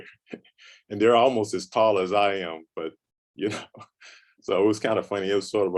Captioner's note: chuckles; chuckles